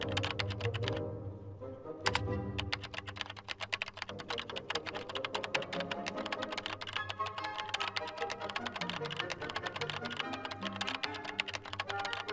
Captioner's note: dramatic orchestral music; keyboard typing clicks